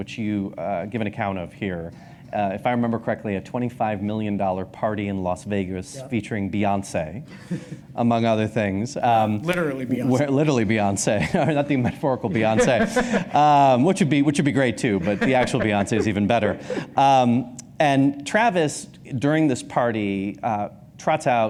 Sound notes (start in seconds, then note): 7.3 chuckles; 12.3 laughs